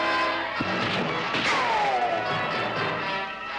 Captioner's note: bullet ricochets; gun fires; intense orchestral music